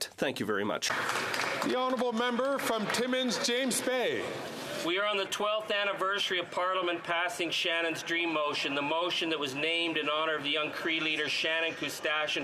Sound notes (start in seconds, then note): 5.0 some Applause